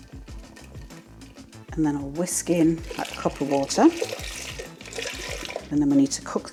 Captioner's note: water pouring